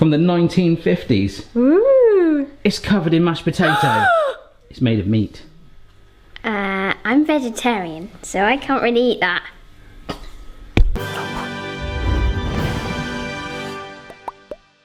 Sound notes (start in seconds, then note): 3.6 gasping; 10.9 dramatic music